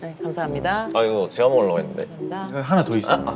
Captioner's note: grumbling